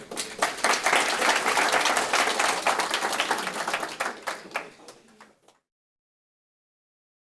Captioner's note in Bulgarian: Аплодисменти